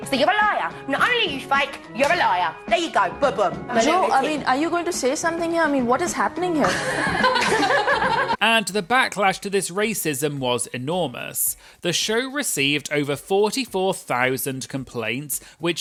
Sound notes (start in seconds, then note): 6.6 laughing